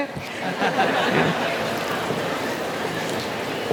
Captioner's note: laughing